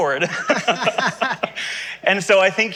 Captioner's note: laughter